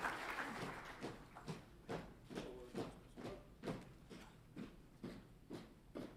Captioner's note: rhythmic footsteps resound